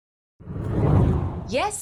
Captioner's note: hard whooshing